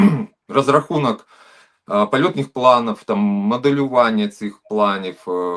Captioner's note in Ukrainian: прочищення горла